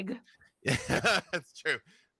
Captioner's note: freely laughs